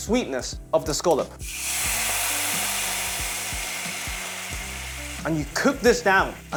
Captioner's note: sizzling sound